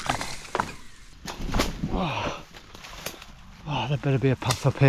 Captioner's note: grunts